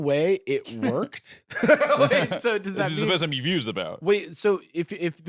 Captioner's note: laughs